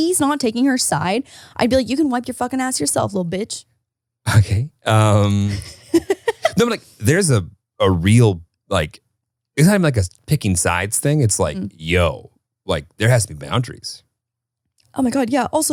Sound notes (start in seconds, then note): 5.2 laughs